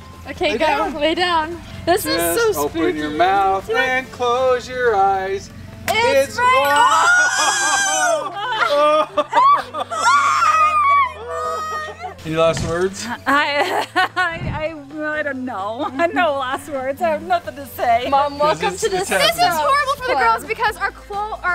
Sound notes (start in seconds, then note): 5.8 balloon pops; 7.5 ding; 9.2 screaming; 13.5 mom laughs